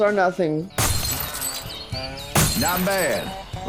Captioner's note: glass shattering